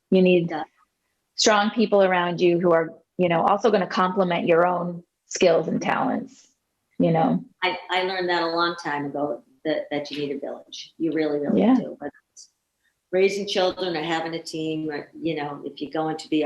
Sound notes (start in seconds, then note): none